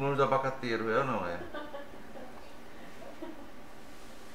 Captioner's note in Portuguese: risos